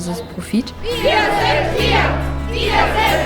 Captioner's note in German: Sprechchor